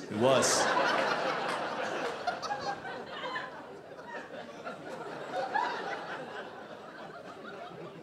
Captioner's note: audience laughing